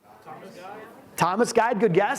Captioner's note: audience replies